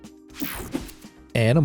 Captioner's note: swishing